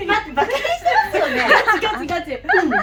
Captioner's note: laughs